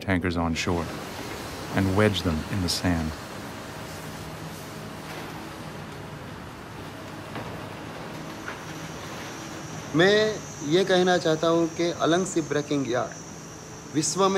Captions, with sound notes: AND WEDGE THEM IN THE SAND. [Native language throughout]